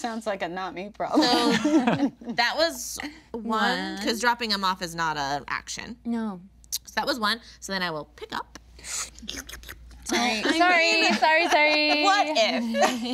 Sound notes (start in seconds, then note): 1.2 group laughing; 8.8 imitating slurping